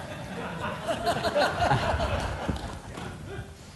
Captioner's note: laughs